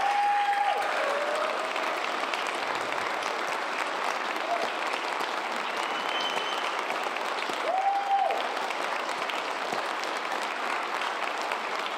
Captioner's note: cheers and applause